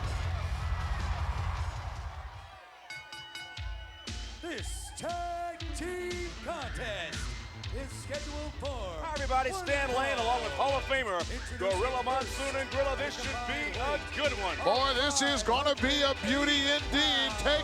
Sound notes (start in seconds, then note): 0.3 upbeat music; 2.7 bell ringing